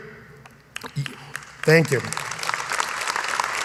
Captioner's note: applause